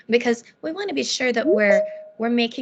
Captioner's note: beeping